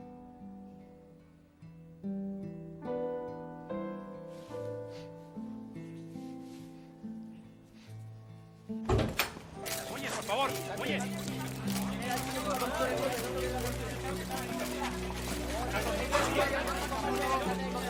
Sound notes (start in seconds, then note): 9.6 reporter clamour